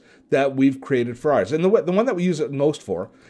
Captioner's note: none